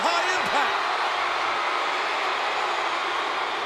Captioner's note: crowd cheering